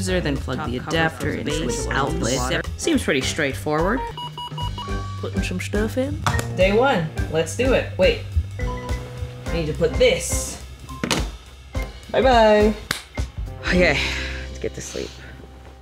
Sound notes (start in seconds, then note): 4.0 alarm beeping; 11.1 phone clattering